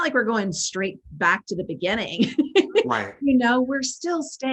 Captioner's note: laughing